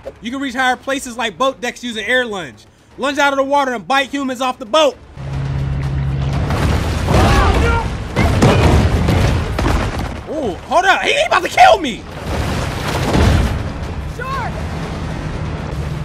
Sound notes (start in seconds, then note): 4.9 dramatic Music; 6.6 gun firing; 12.0 dramatic music continues